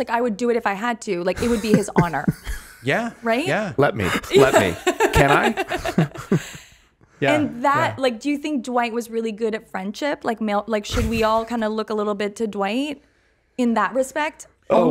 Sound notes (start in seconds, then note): 5.4 everyone laughing